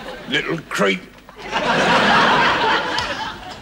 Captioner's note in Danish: publikum griner